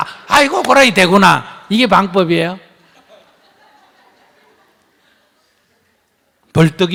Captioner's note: audience Laughter